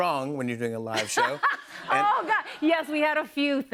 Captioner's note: laughter